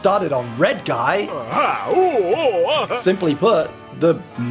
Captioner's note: Red Guy chuckling